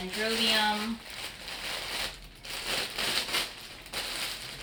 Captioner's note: plastic rustling